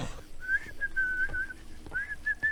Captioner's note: unsuspicious whistling